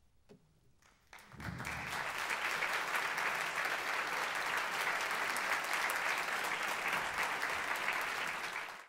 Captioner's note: applause